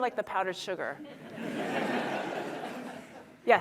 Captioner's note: laughter